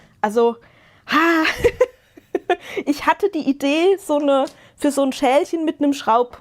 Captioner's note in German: gelächter